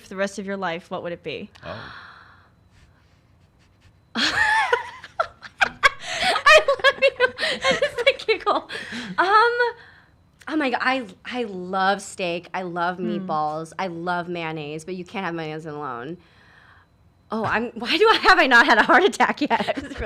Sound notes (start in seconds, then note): 1.7 gasps softly; 5.4 laughs